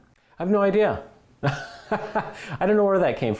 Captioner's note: laughter